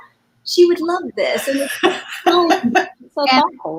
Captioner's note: laughter